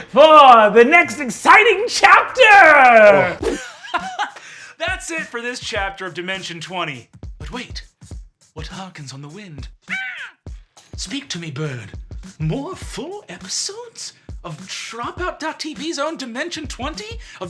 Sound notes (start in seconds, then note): 4.6 laughs; 10.0 mimics crowing